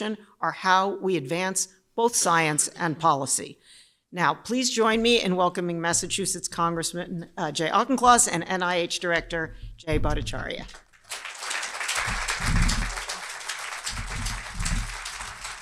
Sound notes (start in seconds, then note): 10.7 applause